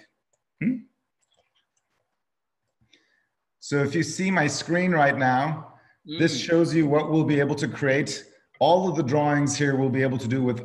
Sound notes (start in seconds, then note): 0.1 whispering